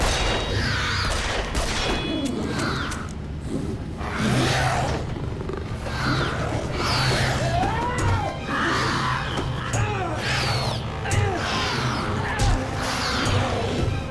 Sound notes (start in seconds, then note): 0.0 dramatic music; 1.0 gun fires; 7.7 Toller grunts; 7.7 creature cries